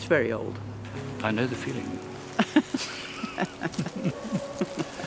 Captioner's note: laughter